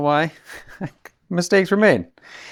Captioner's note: laughter